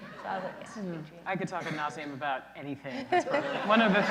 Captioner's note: laughter